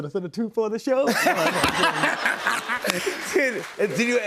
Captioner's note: laughter